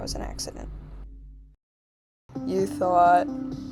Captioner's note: silence